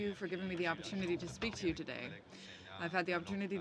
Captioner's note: speaking French